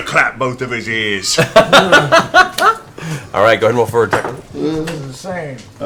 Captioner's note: laughs